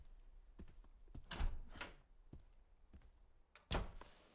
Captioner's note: door opens and closes